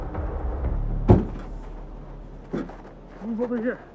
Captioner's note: car door closing